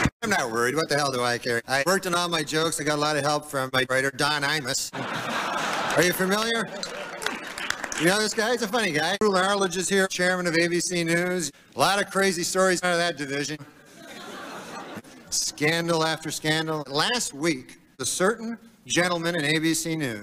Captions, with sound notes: I'm not worried. What the hell do I care? I worked on all my jokes with a lot of help from my writer Don Imus. (laughter) Are you familiar with him? He is a funny guy. Chairman Roone Arledge of ABC News is here. A lot of crazy stories come out of that division. Scandal after scandal. Last week, a certain gentleman from ABC News